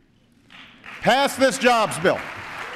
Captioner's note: applause